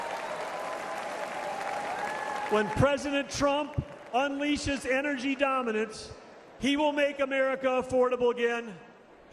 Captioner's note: applause